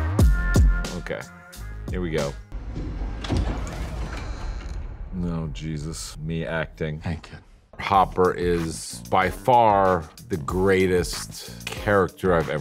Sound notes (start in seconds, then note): 2.5 door creaking